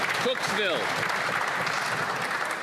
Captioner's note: some Applause